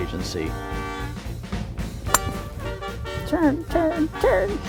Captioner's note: metal clinking